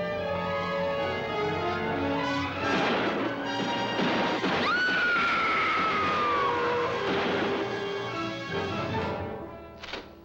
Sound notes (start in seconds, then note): 2.6 gun firing; 4.6 screaming; 7.3 dramatic music